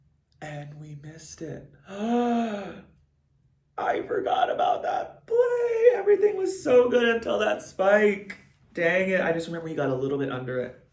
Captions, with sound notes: And we missed it. (gasps) I forgot about that play. Everything was so good until that spike. Dang it. I just remember he got a little bit under it.